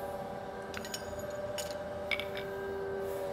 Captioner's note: machine noise